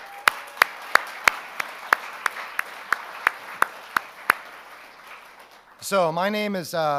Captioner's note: audience cheers; audience applauding